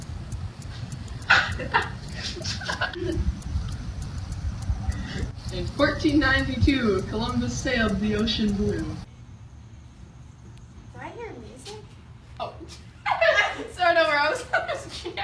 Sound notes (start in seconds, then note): 1.2 laughing